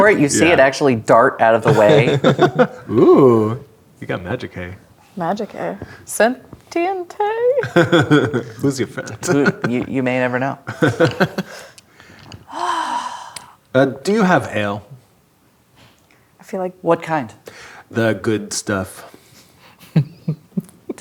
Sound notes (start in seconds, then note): 7.6 laughing; 12.5 sighs, as character; 19.8 chuckling